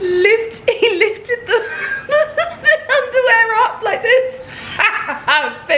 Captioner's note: laughing